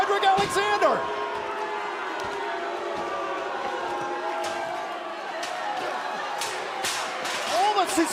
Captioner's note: crowd cheering